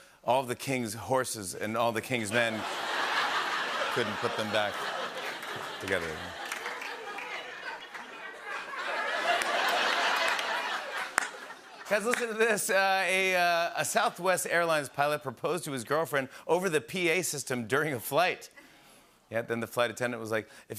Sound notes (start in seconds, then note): 2.5 laughter; 6.1 laughter